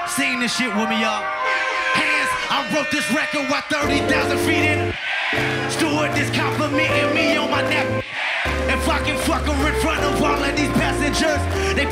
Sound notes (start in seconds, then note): 0.6 air horn blares